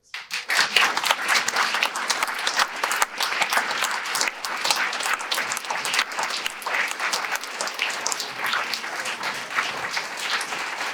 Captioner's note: audience applause